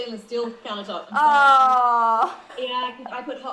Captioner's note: laughs